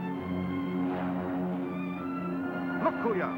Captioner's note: plane droning